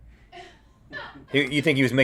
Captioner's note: laughs